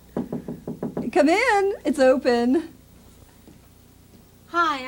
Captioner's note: knocking